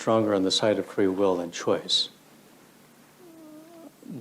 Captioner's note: laughs